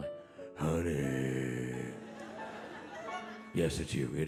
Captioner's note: audience laughing